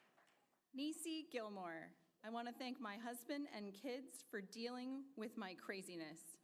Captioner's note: applause